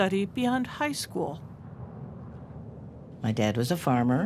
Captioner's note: wind blowing